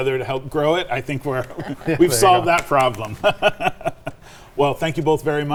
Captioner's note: laughs